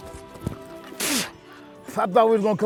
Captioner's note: spits